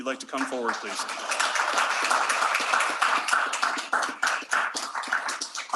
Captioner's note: applause